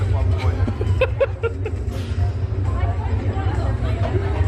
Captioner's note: laughs